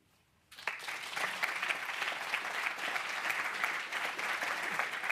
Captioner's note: applause